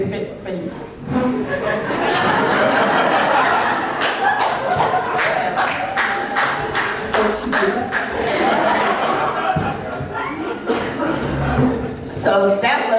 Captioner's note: crowd laughing